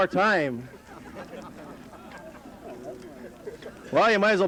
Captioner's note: laughter